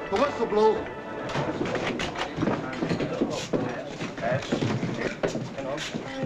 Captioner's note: men chattering; footsteps thudding